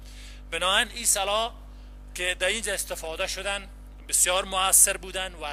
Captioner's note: translator speaking in foreign language